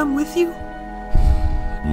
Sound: sighs

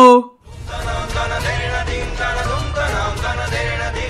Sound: incessant dramatic tumbling

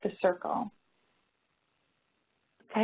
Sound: pause

